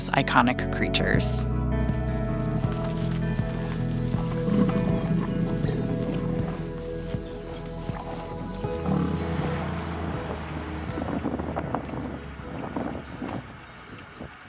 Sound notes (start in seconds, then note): 4.6 bison grumbling; 4.6 light music